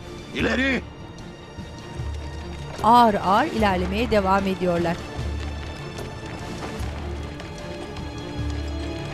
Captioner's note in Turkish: At nalı sesleri